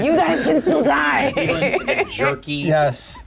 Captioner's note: laughs